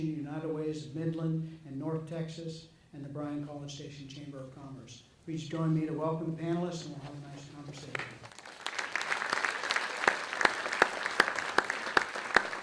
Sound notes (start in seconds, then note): 7.7 audience clapping